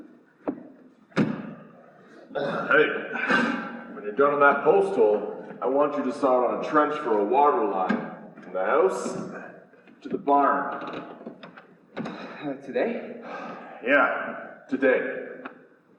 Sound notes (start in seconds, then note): 2.2 grunts; 13.2 sighs